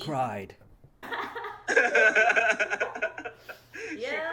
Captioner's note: laughing out loud